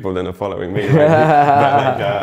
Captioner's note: laughs